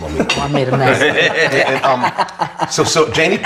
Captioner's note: all laughing